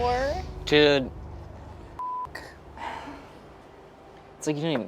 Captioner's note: beeps